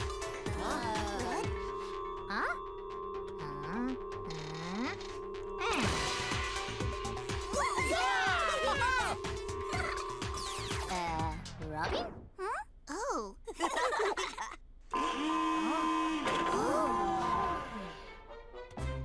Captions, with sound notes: - Huh? - What? - Huh? Uh... (all cheering) - Uh... Robin? - Huh? Oh. (laughing) (alarm blaring) - Oh!